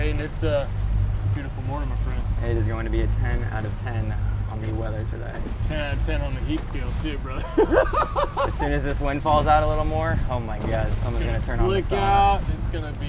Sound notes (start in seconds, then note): 7.4 laughing